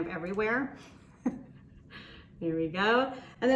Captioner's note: laughs